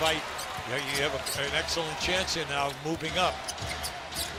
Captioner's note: cheers and applause